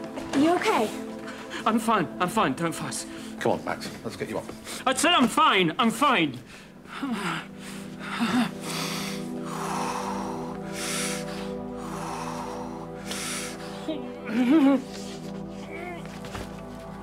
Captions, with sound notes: Are you OK? I'm fine, I'm fine. Don't fuss. Come on, Max. Let's get you up. I said I'm fine. I'm fine. (Max takes deep breaths) (Straining)